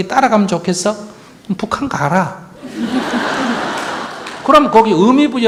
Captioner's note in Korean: 청중 웃음